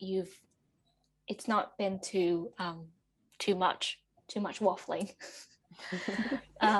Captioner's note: laughter